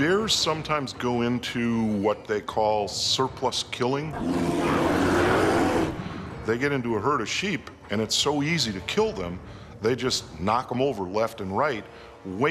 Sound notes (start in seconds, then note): 4.1 bear growling